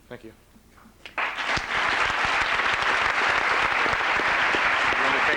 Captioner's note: applause